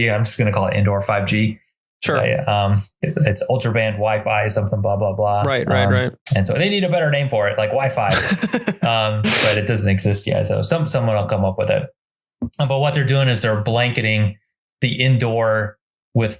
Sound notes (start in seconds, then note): 8.0 giggles